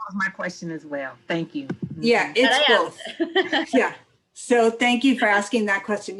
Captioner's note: laughter